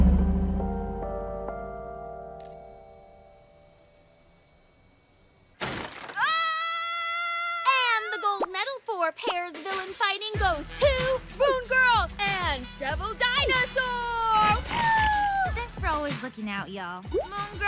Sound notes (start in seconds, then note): 0.0 somber music playing; 2.5 whirring